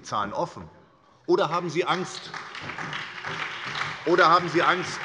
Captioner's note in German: Beifall bei der SPD